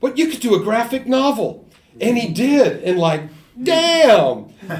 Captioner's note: speaking in ideophones